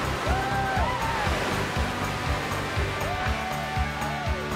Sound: cheering

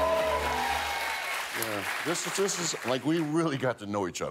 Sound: applause

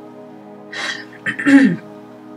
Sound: sigh, ahem

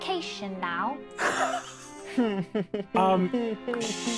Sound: chuckling

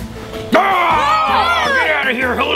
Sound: loud screaming

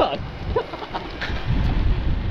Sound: laughs

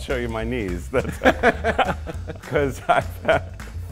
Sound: both laughing

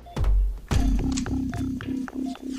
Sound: machine beeping

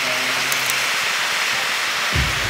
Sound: shutters clicking

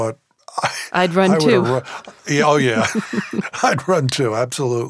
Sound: both laugh

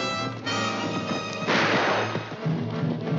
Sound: gunshot

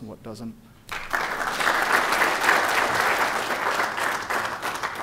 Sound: applause

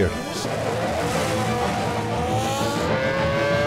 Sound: engine roaring

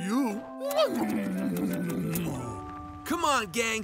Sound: kissing sounds

